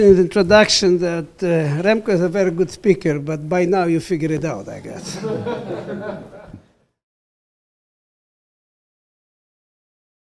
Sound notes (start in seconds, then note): 4.8 laugh